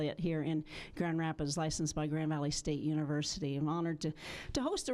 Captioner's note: none